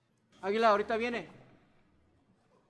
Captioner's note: Spanish